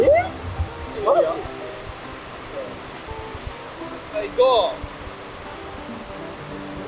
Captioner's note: laughs